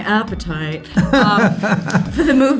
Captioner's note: laughs